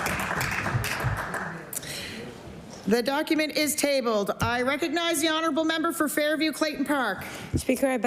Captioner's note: applause